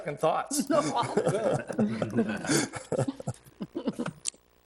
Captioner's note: people laughing